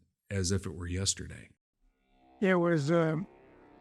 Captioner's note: droning sound